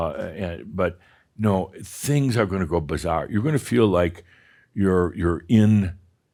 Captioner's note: none